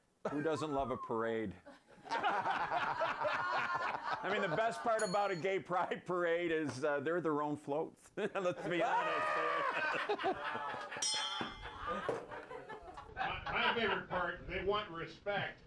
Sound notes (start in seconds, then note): 4.9 bell rings; 8.2 laughter; 11.0 bell rings